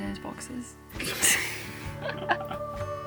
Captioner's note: laughs